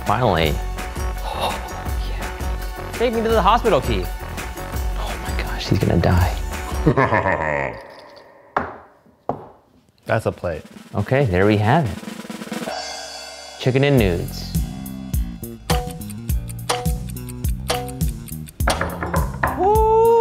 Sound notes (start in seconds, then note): 6.8 evil laugh; 15.6 clock ticking; 18.6 knock on door